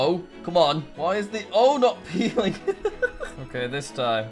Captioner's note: laughs